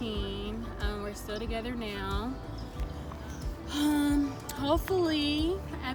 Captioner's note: sighs anxiously